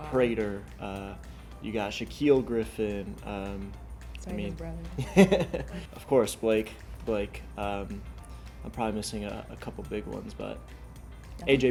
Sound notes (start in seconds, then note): 5.0 laughs